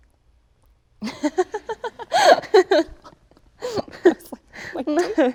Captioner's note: Emma laughing